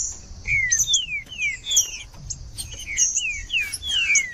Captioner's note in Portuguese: trinca ferro cantando